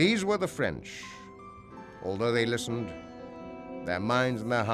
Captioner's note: none